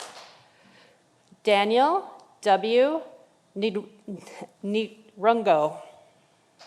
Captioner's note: audience applauding